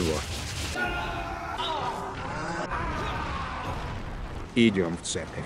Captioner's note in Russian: звуки поражения